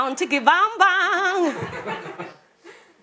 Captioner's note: laughter